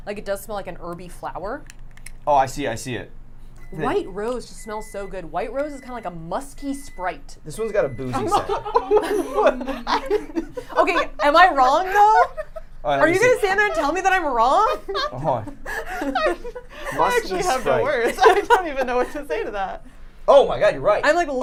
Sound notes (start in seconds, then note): 8.2 laughing; 15.0 laughing